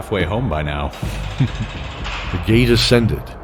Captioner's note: chuckle